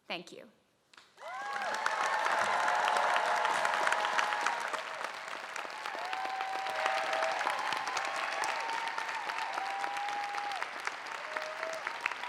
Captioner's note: applause